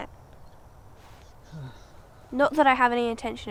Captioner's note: Joseph sighing